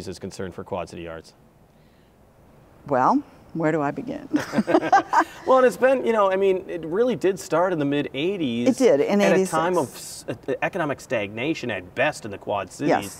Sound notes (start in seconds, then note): 4.3 laughs